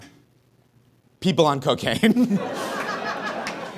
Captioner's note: cracks up; audience laughs